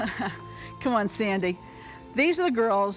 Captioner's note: laughs